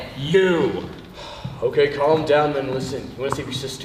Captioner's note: sighs